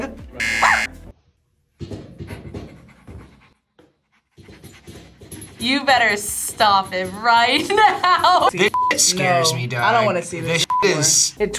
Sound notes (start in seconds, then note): 0.4 buzzer rings; 0.6 barks; 2.1 pants